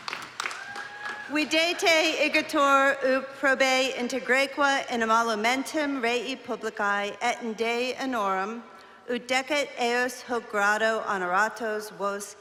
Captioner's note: non-english speech